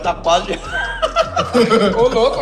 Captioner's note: laughter